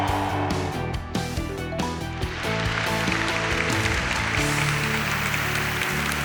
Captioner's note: applause